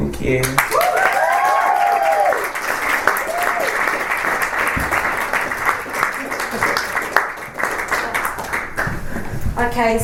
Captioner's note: audience cheers and applauds